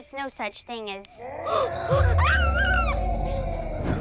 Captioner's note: howling